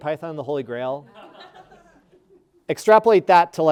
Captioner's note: audience laughing